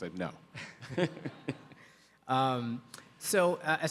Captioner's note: Atul laughs